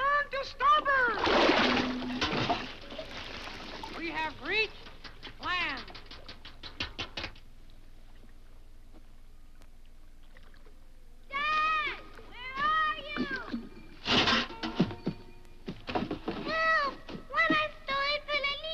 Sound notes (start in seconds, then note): 1.0 water splashes; 1.4 boat clanks; 5.5 bike rattles; 13.8 bike rattles